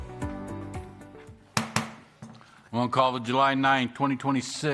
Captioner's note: gavel